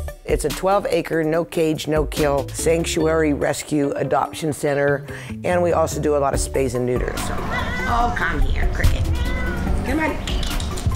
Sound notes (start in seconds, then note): 9.0 cat meowing